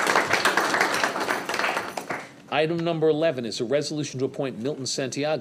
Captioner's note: applause